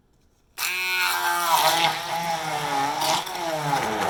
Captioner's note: blending noises